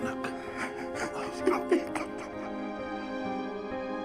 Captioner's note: crying; sullen music continues